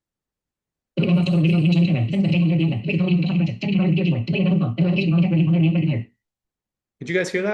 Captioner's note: rapid speech